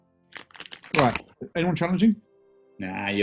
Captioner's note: opens crisp packet